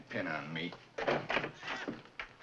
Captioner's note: door opens